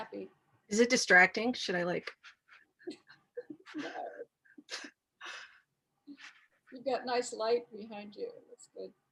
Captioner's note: laughs